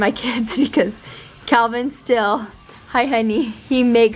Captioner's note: laughs